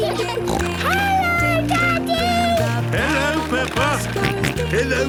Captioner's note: snorting; George snorting